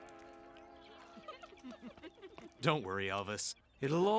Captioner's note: giggling